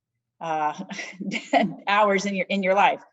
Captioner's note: laughs